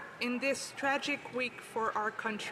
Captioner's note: speaking French